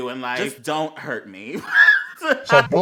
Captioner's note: wHEEZE